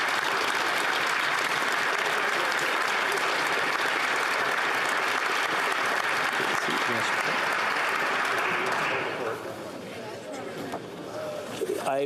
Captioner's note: applause